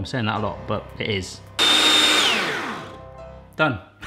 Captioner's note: blender whirring